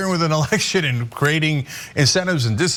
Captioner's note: laugh